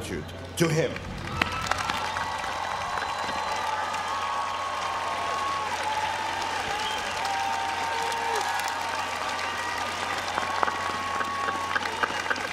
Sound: applause

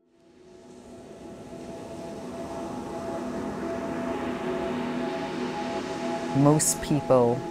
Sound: gentle music; waves lapping

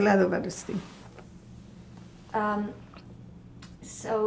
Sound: pauses 6 seconds

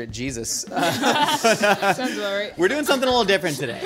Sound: laughing

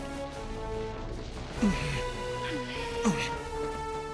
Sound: grunting

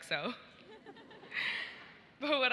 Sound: audience laughs

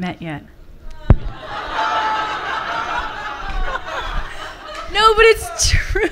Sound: laughter from the audience; laughs

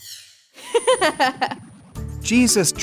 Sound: laughing

